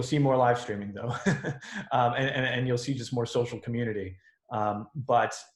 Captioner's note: laughs